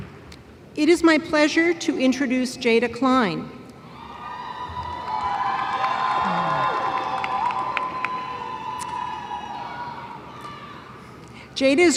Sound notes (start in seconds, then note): 3.9 cheering